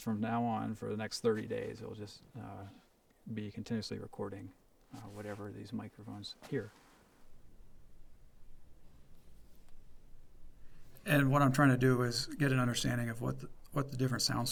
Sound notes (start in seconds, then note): none